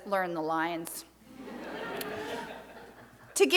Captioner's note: crowd laughs